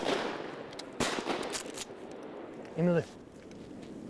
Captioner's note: rifle bangs